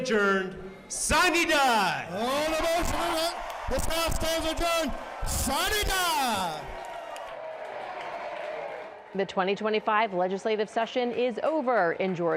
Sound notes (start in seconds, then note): 7.6 cheering and applause